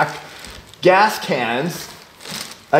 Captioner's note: gasp